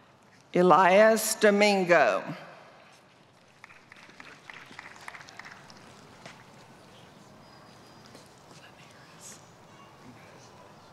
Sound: applause

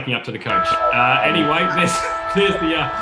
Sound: siren blares

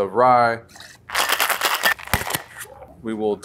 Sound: ice clattering

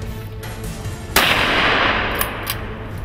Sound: gunshot

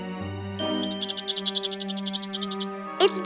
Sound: squeaking

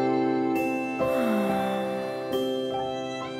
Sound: sighs

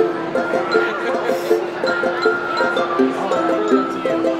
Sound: man laughs

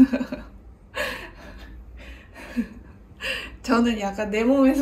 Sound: I just kept laughing out of no where lolz

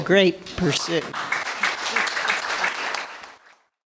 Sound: applause

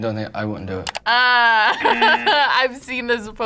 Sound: laughs; buzzer rings

